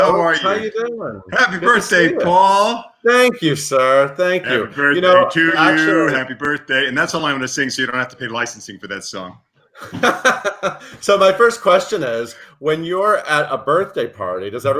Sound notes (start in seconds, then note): 9.8 laughs loudly